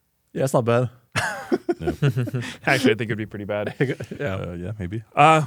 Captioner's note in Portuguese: risos